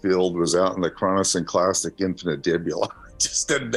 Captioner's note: laughs